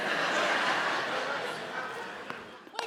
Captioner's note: audience laughing